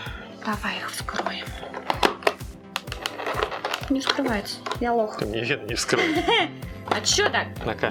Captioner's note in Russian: смех